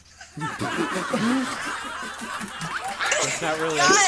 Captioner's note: drum beat; group laughs